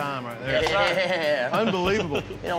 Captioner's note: claps hands